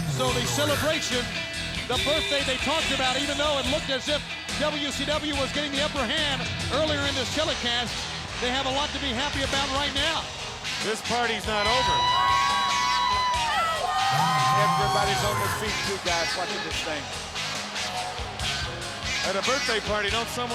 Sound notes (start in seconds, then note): 12.3 crowd cheering